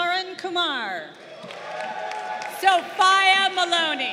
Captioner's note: crowd cheering